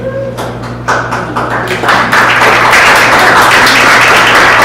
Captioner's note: audience applauds